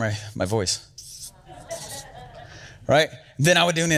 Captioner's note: crowd giggles